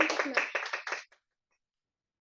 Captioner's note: applause